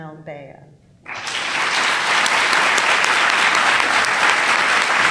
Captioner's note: audience applauds